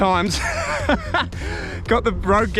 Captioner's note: laughing